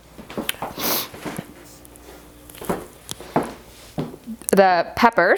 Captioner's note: blows nose; footsteps